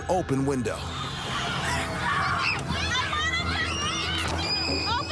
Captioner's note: children yelling